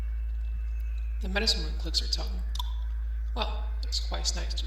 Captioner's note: click